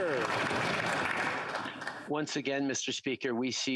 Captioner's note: applause